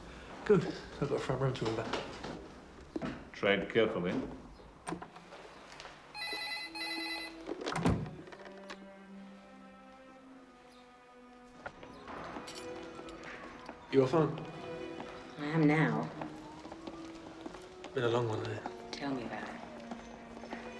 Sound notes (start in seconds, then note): 6.1 telephone rings